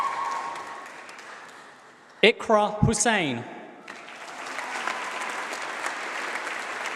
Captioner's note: applause